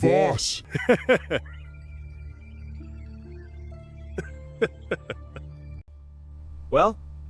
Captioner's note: laughs